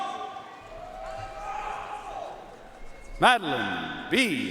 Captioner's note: audience cheering and applauding